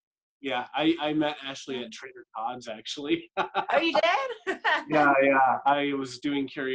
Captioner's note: laughter